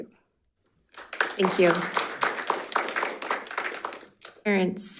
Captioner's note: crowd applauding